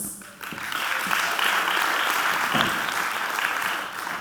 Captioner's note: audience clapping